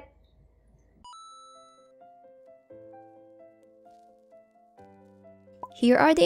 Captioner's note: coin drop